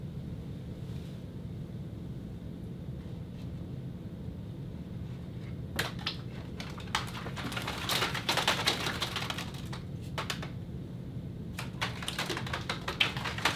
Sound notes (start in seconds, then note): 3.9 sliding, tapping, and pitter-pattering; 11.6 tapping and clattering